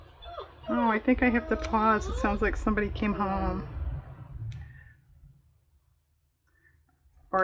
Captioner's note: dog whining